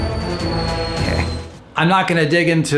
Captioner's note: snickers